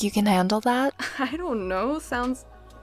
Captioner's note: chuckles